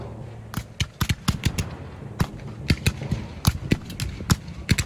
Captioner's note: gun fires